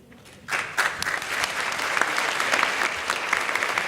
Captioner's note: audience claps